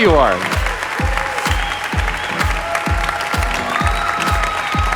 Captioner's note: audience applauding